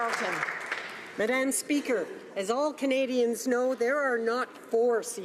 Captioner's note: applause